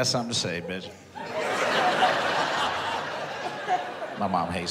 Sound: audience laughs

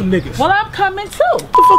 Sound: cocks gun

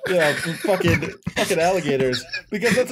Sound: laughter

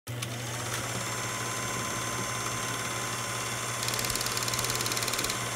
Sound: projector whirring and clicking

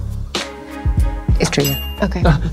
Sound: dings

